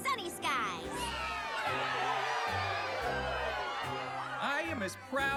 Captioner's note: all cheering